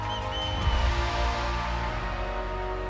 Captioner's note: cheers and applause